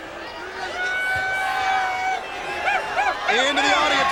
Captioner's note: crowd cheering